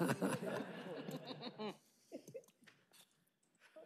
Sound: laughter

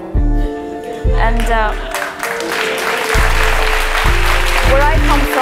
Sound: applause

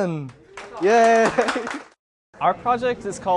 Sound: clapping

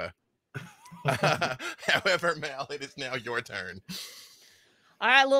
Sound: laughs

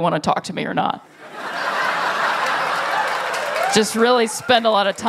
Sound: laughter

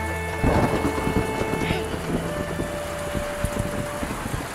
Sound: thunder crashing

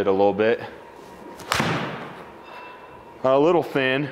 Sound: ball thuds

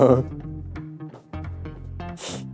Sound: hiss

